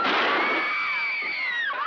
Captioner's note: gunshots; screaming